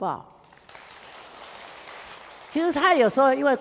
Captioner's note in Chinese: 眾人鼓掌